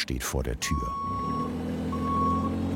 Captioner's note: the forklift beeps